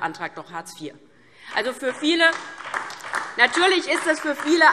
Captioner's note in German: Beifall DIE LINKE